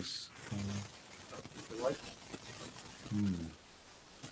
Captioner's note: audio static